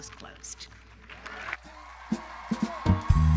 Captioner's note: applause